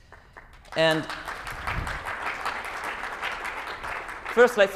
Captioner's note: applause